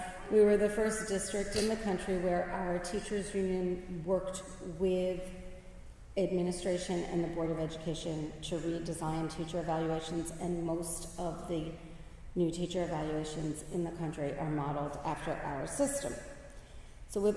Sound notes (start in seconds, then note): none